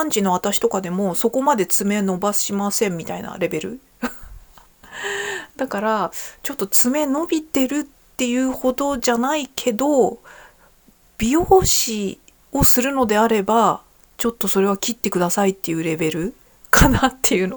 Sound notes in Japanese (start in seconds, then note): 4.0 笑い; 4.8 息をのむ音